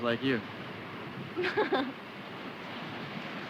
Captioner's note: laughs